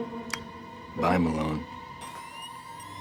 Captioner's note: click; whirring